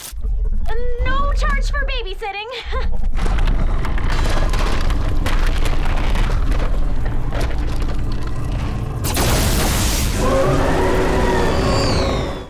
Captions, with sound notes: No charge for babysitting. [chuckles] [roaring]